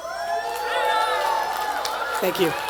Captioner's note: attendees applauding and cheering